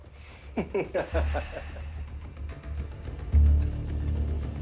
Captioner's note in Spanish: Risas